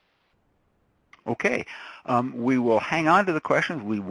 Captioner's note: voiceover